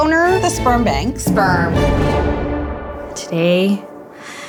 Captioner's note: in Unison